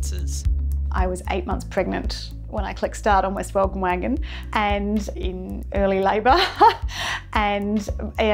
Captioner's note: laughter